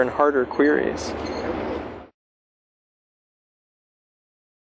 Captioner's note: pause